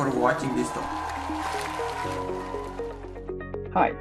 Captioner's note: applause